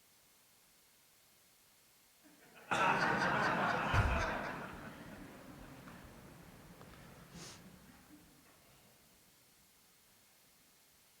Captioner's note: applause